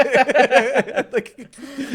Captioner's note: laughing